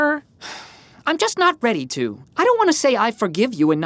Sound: sighs

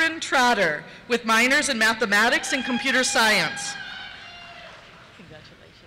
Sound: cheers

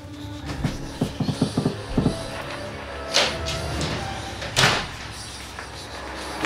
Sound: ghostly whispering

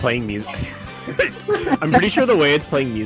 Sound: laughs

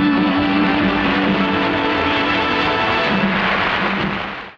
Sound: audience applauding

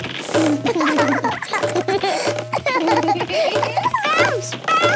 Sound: both laugh

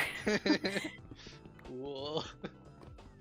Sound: laughs

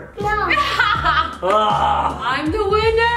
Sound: laughs

